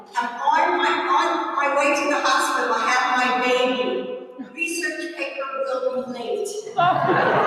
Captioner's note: laughter